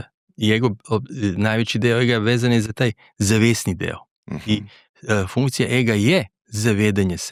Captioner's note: clears throat